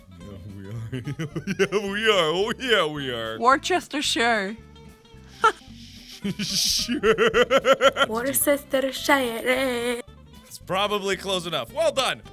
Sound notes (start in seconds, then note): 0.2 laughing; 5.3 laugh gets cut off, sounds like a honk; 6.0 laughing; 8.1 with Spanish accent